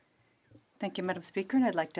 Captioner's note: speaking French